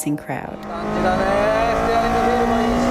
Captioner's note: engine revs; speaking in Japanese